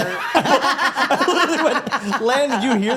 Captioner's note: all laughing